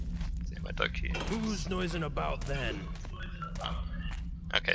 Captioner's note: door creaks open